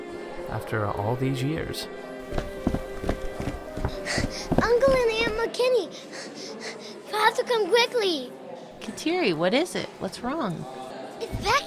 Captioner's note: running footsteps, and little comes to the table, out of breath